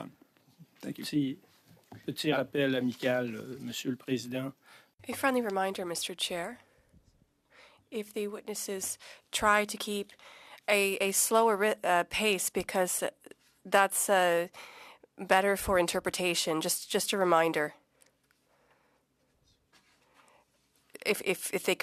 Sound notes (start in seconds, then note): 10.0 speaking French